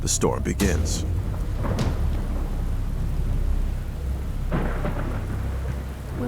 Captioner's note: rain pattering; thunder rumbling